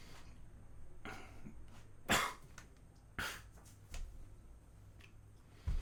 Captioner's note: coughing